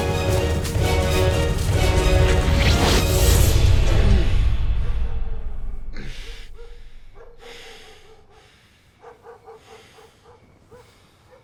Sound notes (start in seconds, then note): 2.6 gun firing; 5.9 dog barking in distance; 8.9 breathing heavily